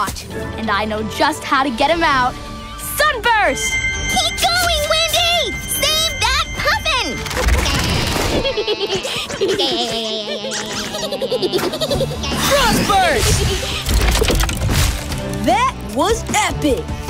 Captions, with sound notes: And I know just how to get them out. Sunburst! Keep going. Windy! Save that puffin! (laughing) Frost burst! That was epic!